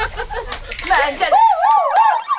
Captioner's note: panicking